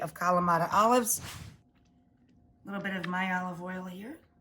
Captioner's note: air whooshes